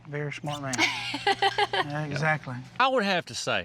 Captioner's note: laughs